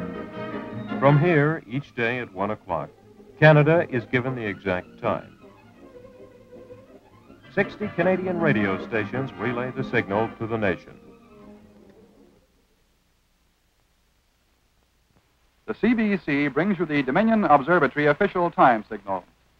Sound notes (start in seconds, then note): 15.1 silence